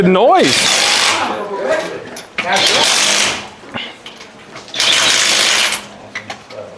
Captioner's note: engine revs